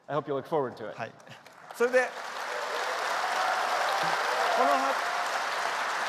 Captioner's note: applause